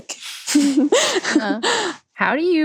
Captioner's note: laughs